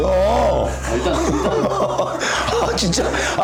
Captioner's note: laughing hysterically